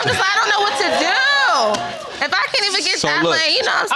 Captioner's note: all laughing